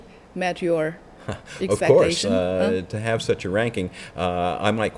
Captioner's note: laughs